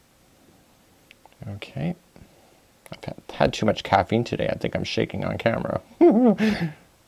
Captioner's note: laugh